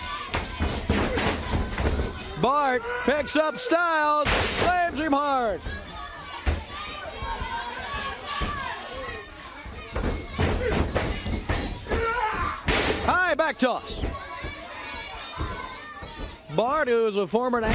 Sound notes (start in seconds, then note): 1.7 crowd cheering